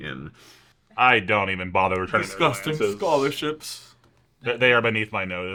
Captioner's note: in an aristocratic voice